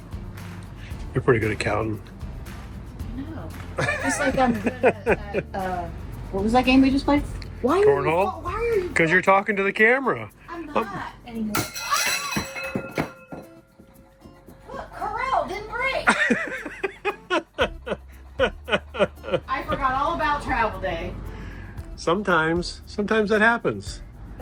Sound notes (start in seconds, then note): 3.8 laughing; 11.5 screaming; 11.5 dishes clattering; 16.0 upbeat music; 16.1 laughing